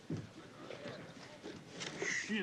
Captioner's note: crowd chatter